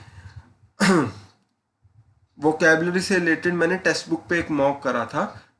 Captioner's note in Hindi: गला साफ़ करने की आवाज़